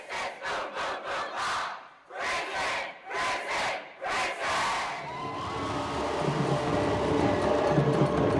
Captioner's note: cheers; drums